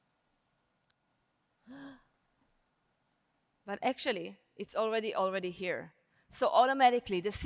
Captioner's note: gasp